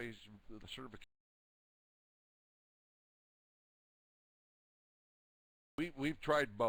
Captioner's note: audio drops; audio drops